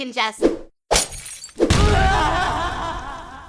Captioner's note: glass shatters